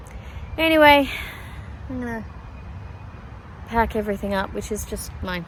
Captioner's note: sighs